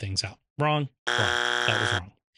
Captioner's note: buzzer buzzes